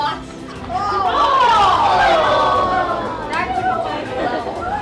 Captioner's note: laughter